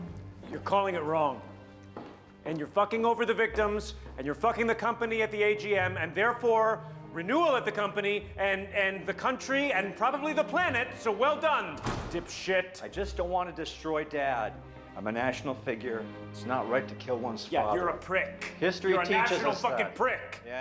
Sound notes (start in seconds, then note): 11.6 door slams